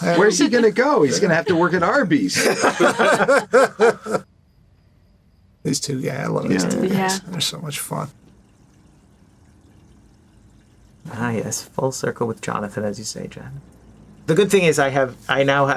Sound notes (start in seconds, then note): 2.8 laughing